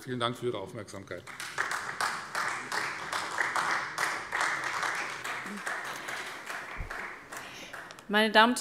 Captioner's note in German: Beifall Freie Demokraten